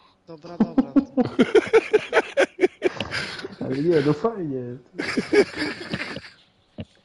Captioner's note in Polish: śmiech